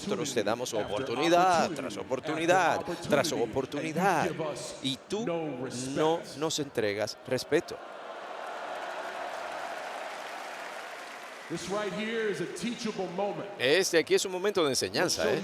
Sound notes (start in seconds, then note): 8.2 applause